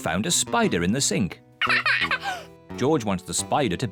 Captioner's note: laughs